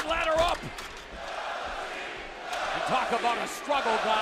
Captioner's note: crowd cheering